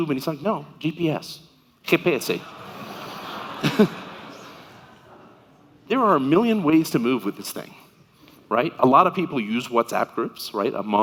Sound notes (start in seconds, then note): 1.8 speaking in foreign language; 2.3 audience laughing